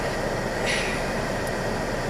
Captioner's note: clears throat